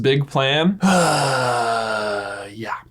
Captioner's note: sighs